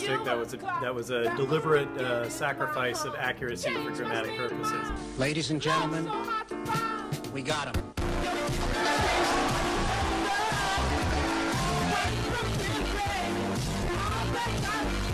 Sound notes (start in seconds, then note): 8.6 cheering